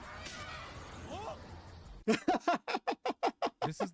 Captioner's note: laughing